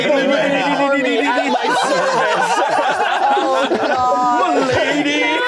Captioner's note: everyone laughing